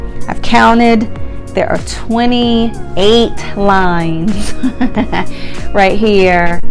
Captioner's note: chuckles